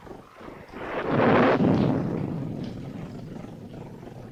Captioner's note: thunder rumbling